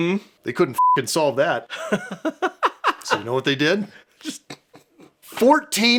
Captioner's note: beeping